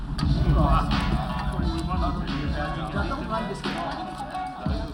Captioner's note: bar chatter